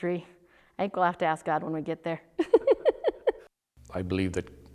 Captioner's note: laughs